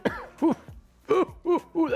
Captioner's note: coughs; laughs